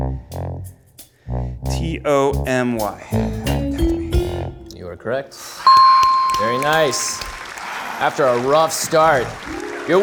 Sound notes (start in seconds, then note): 5.6 beeps; 5.6 bell rings; 5.8 audience applauding